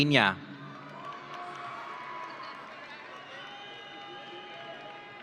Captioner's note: audience cheering